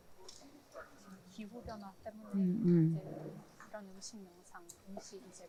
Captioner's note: both speaking in foreign language